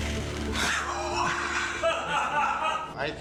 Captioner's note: laughs